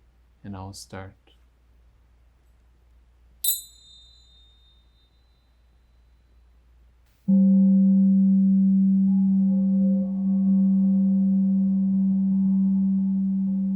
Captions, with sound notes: And I'll start. (cymbals ding) (gong rings) (gentle ethereal music)